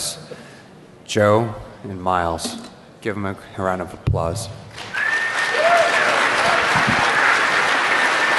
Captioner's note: applause